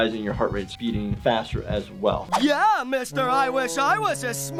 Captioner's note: none